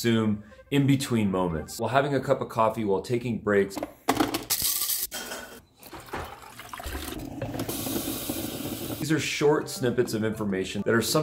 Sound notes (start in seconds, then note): 6.4 water gurgling; 6.4 water bubbling